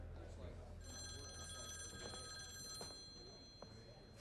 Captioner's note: phone ringing